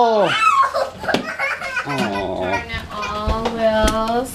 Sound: child cries

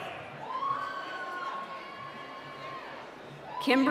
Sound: cheering

